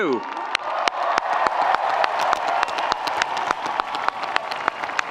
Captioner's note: audience applauding